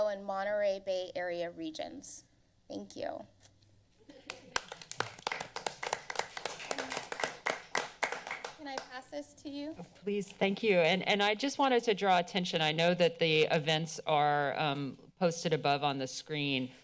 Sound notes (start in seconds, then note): 4.2 members applauding